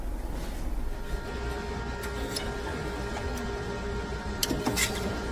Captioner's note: machine whirring